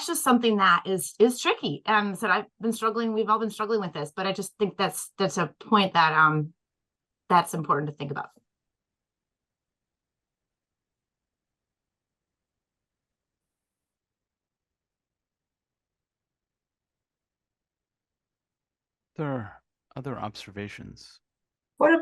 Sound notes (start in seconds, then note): 13.2 pause